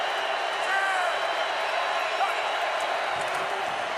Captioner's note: crowd cheering